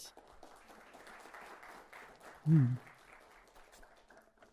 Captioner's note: applause